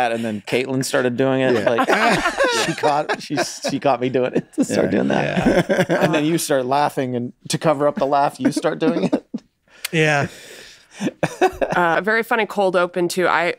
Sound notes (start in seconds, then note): 0.6 all laughing; 10.6 laughs